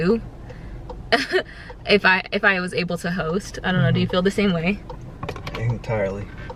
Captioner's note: laughs